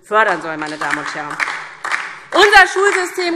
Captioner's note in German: Beifall DIE LINKE und vereinzelt SPD